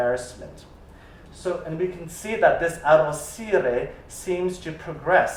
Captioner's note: italian